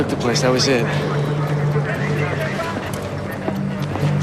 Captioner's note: police chatter